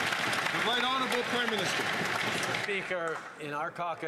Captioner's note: some Applause